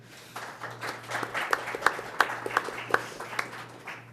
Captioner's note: applause